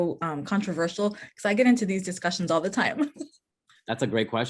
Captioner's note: laughs